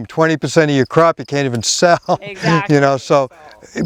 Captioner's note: chuckles